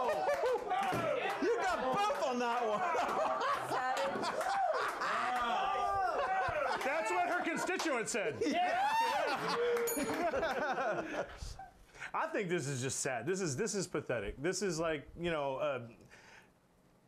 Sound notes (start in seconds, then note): 8.3 laughter; 9.8 bell rings